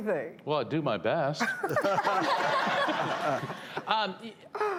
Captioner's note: laughter